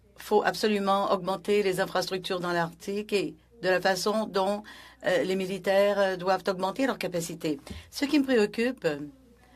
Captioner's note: speaking French